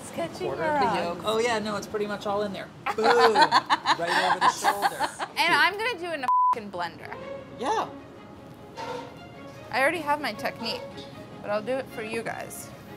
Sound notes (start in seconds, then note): 2.8 laughing; 9.2 upbeat string music